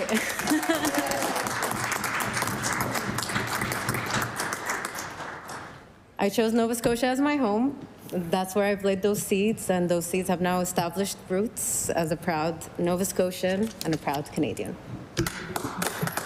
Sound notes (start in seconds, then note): 2.6 applause